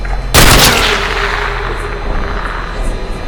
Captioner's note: gunshot; blood splatters